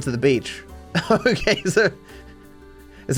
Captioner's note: laughing